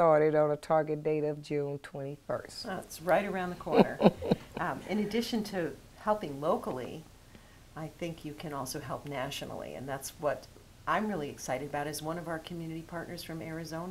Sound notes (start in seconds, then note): 3.6 laughs